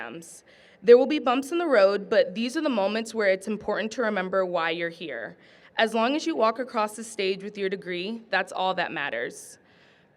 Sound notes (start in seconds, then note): none